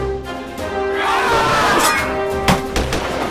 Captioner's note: group grunting; sword whooshing; gunshots firing